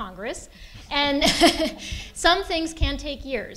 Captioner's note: laughter